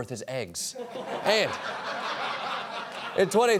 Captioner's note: laughter